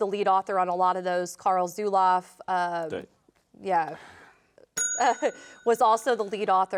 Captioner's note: bell dinging